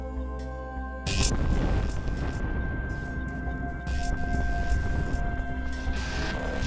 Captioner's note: thunder claps and electricity sizzles